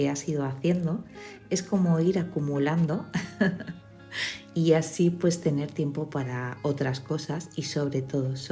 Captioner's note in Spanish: risas